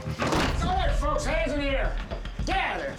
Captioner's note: kicks door open